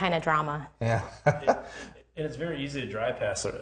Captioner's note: laughing